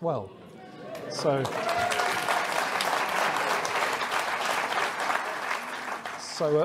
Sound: audience cheering & applauding

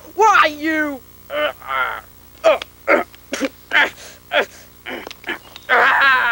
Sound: extremely realistic fighting sounds

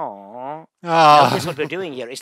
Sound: groaning; groans

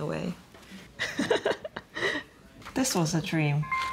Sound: laughs

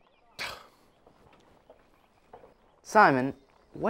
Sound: scoffs

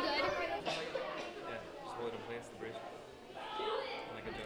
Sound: students chatting

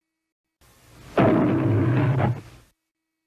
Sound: Leo the Lion roars

